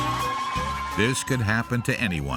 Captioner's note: hollers